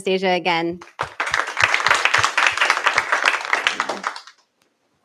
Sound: applause

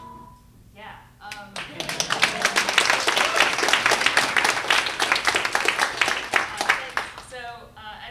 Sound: applause

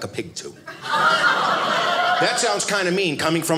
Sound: audience laughing

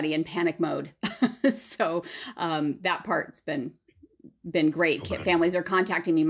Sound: laughter

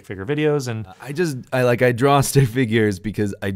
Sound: voiceover

